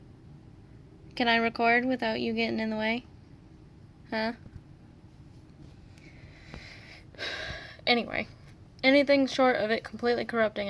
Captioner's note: sigh